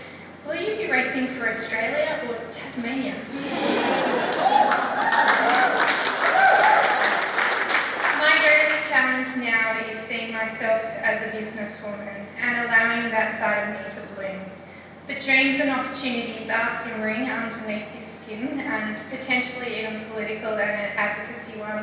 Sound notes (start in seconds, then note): 3.5 laughter; 3.6 cheering and applause